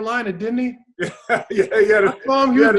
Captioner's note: laughs